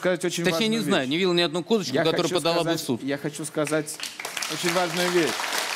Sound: applause

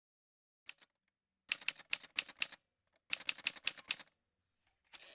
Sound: typewriter sounds

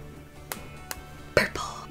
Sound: tap, tap

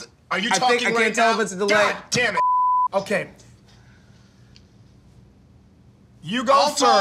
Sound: beeps

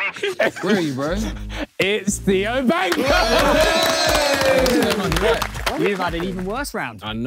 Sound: everyone cheering

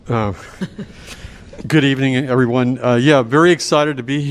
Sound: laughter

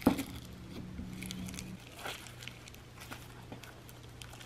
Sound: slime crunching

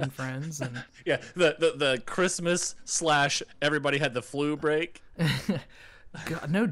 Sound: laughing

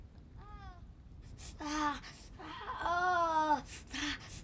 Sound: wincing and moaning

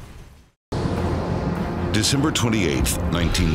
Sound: plane passing

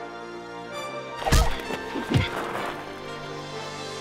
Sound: smacks

